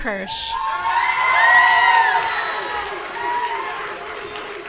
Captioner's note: audience cheering